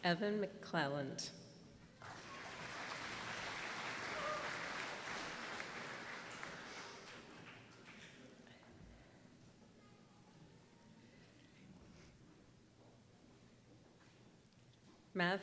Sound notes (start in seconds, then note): 2.0 applause